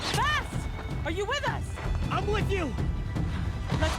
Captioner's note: none